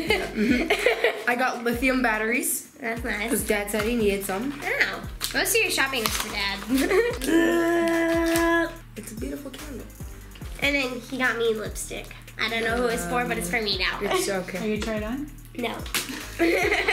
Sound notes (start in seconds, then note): 6.8 grunting; 16.2 laughing